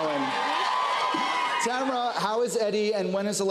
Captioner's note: laughs; cheers and applause